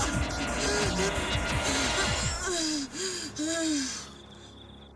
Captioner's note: breathing heavily